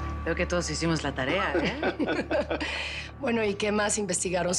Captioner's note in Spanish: Risas